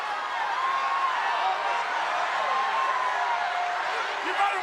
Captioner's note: crowd cheers